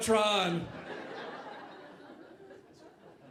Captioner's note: audience laughing